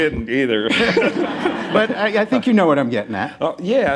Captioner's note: laughter